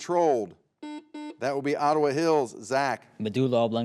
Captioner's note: buzzer beeps